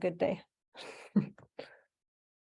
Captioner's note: chuckling